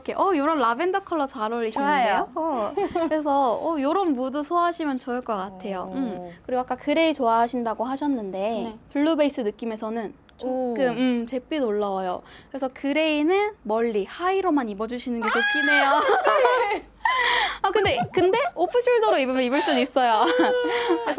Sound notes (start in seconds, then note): 15.2 A gray lover shrieks